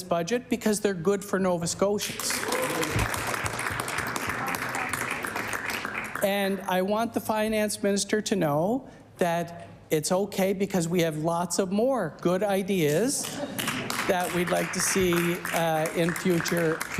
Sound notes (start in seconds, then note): 7.3 cheering/applause